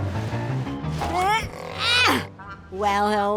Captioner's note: grunting